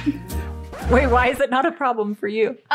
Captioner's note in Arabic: صوت الترجيع